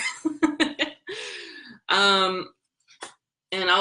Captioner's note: laughs